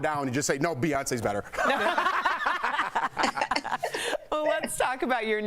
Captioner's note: laughter